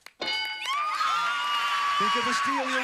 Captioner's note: audience applauding